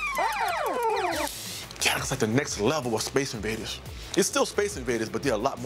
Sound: arcade sounds

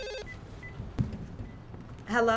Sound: keys beeping

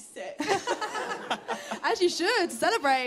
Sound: laughter

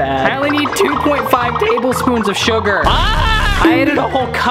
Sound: screams

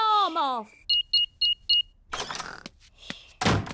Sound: beeping

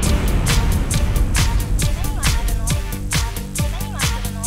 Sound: speaking foreign language

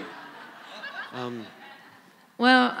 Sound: laughter

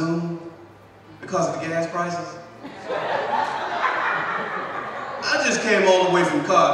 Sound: audience laughs

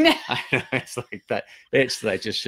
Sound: laughing

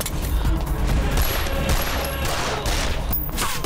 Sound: gun shots

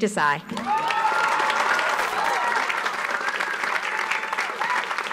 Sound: audience cheers

